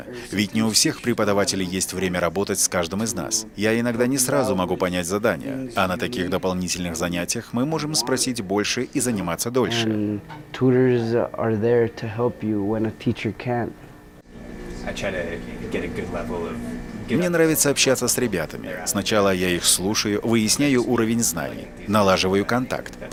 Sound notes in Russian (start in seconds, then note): 9.8 английская речь